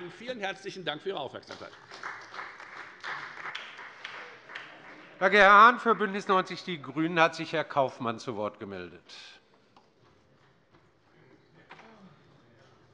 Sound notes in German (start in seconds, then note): 1.4 Beifall bei der FDP und bei Abgeordneten der CDU